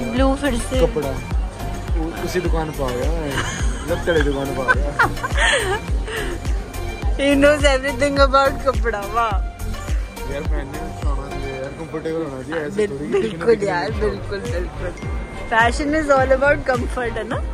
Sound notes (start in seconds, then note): 8.1 laughing